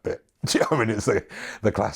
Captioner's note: chuckles